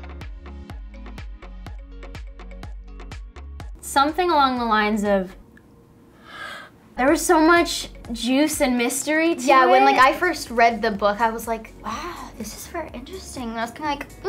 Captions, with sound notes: - Something along the lines of, (gasps) there was so much juice and mystery to it. - Yeah like when I first read the book I was like, wow this is very interesting, and I was kind of like,